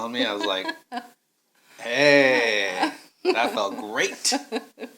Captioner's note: laughing